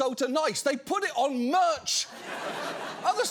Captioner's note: audience laughs